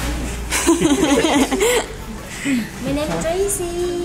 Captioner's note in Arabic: تضحك; امرأة تتحدث لغة أجنبية